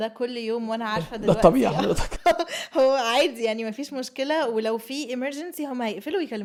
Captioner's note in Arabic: ضحك